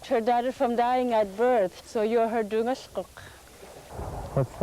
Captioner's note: speaking yupik